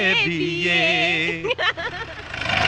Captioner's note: laughing